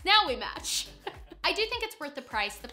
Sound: both laugh

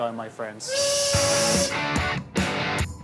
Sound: train whistle; upbeat music

